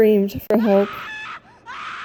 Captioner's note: woman screaming